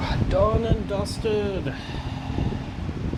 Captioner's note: fan Noise